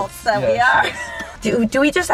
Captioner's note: laughs